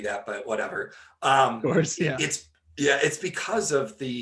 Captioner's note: laughing